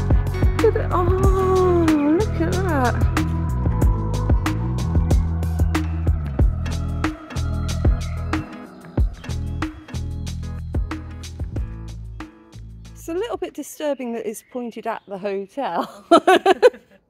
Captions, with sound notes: Look! Ah, look at that! [bird song] - It's a little bit disturbing that it's pointed at the hotel. [laughing]